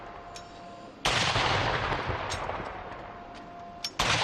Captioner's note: gunshots